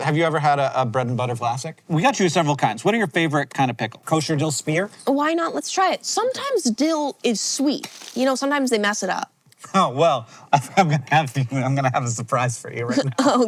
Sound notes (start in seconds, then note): 12.9 chuckles